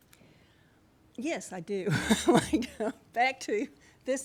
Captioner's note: laughs